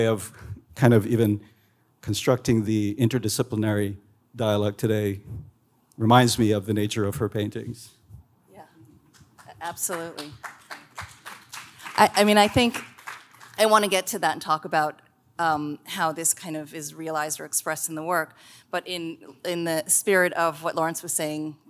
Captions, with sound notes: of kind of even constructing the interdisciplinary dialect today reminds me of the nature of her paintings. - Yeah, absolutely. (audience claps) I mean, I think I wanna get to that and talk about how this kind of is realized or expressed in the work, but in the spirit of what Lawrence was saying